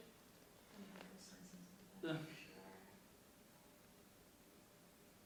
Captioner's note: speaks faintly